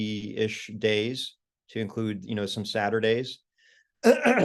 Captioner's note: cough